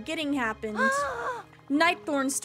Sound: Ariel, Unnecessarily Dramatic Gasp

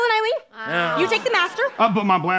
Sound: simultaneously groaning

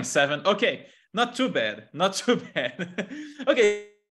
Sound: laughs

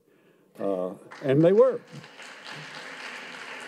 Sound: audience claps

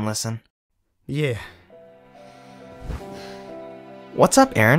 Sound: sigh

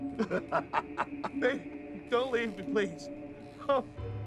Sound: laughing

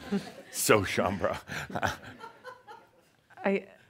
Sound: chuckles

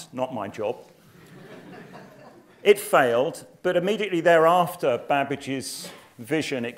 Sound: laugh

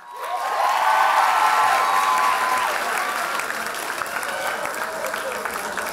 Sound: loud applause and cheers

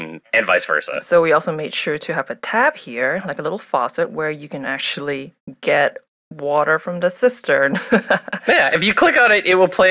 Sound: laughs

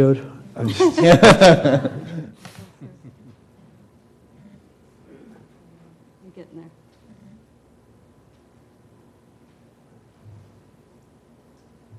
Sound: laugh

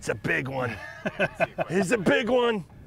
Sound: laughs

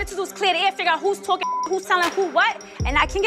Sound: beep

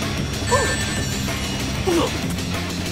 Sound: upbeat music; coins chime; Sonic grunts

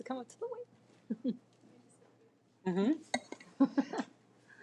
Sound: laughing

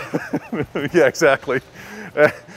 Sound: laughter

